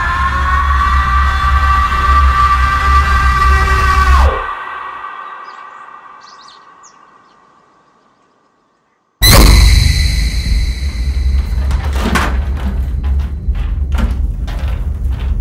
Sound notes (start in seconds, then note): 9.2 dramatic screeching; 12.5 rattling chains